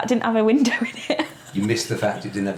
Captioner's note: laughs